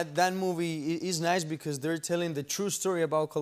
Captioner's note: none